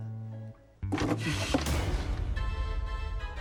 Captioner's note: clattering